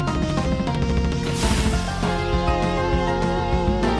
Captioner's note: rolling sound